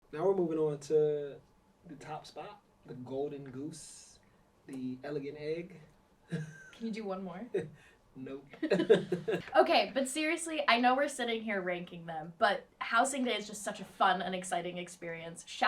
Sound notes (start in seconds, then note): 6.3 chuckles; 8.6 laughs